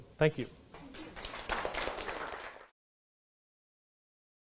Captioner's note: clapping